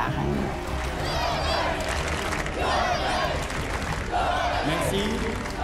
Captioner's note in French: cris de la foule